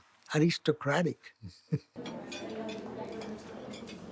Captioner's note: chuckles